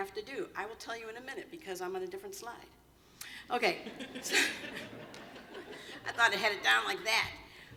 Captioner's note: laughter